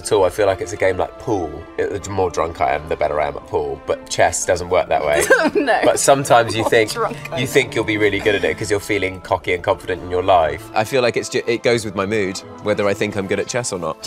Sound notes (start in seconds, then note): 5.1 laughs